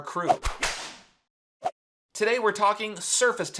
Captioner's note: logo whooshing